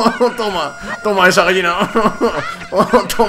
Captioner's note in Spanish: Continua Riendose; Sigue Riendose